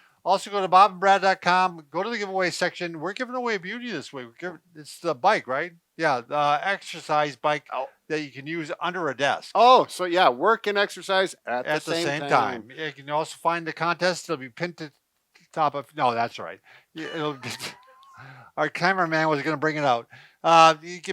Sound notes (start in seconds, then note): 17.0 laughing